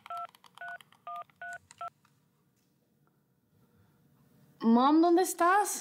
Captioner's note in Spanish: sonido al marcar